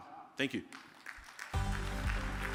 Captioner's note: audience applauding; upbeat music